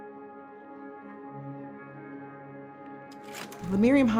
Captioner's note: background music begins; clicking sound effect for slide changes